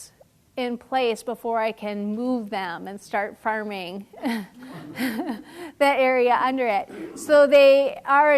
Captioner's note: laugh